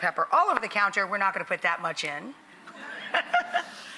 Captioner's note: audience laughing; laughing